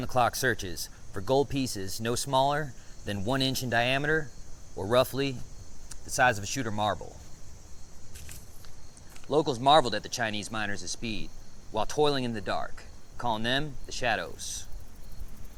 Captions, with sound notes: in around-the-clock searches for gold pieces, no smaller than one inch in diameter, or roughly the size of a shooter marble." (insects chittering) (paper rustling) "Locals marveled at the Chinese miners' speed while toiling in the dark, calling them the shadows.